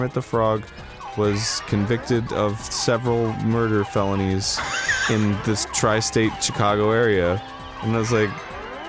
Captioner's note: wheezes